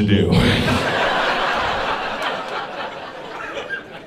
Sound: audience laughing

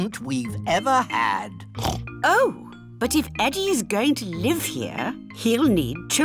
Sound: oinks

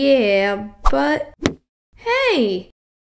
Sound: smack!

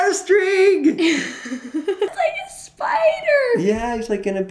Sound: laughing

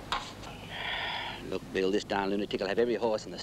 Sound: sighs

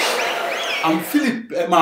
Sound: wild applause and cheering for 22 seconds

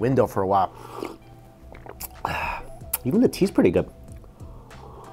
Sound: slurps tea

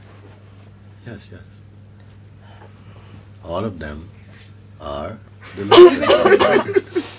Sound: laughter

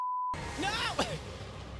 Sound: laughs

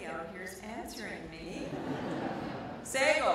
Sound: audience laughter

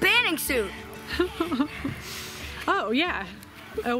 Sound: laughing

